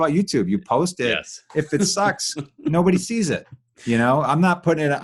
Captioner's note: laughing